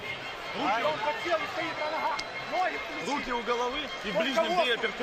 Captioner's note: speaking Ukrainian